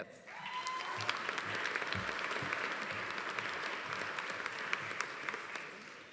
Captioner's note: audience applauding; audience cheering